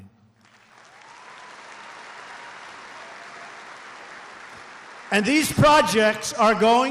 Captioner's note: applause